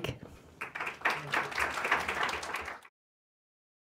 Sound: audience applauds

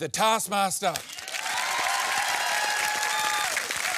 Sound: cheering and applause

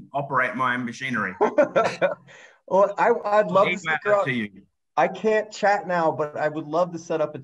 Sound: laughs

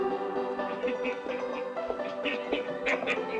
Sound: Luke laughing

